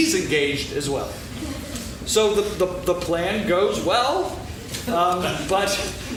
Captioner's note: laughing